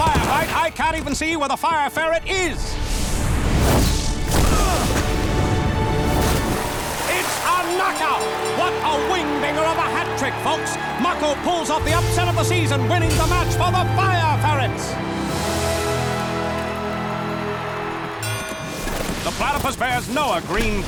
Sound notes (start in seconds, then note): 18.2 dinging